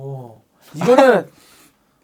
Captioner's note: fails to hold in laughter